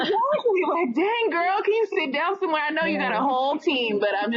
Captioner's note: laughter